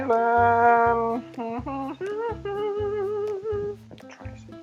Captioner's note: humming some odd tunes